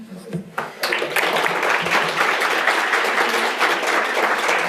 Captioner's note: attendees applauding